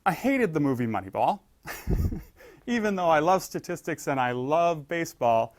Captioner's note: laugh